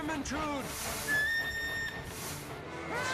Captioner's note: train whistle blows